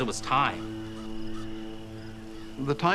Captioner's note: crickets chirping